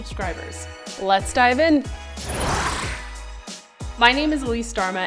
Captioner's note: air whooshes